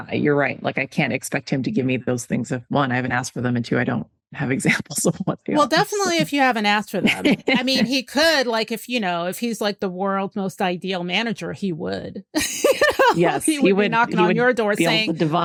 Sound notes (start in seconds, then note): 5.6 laughs; 12.4 laughs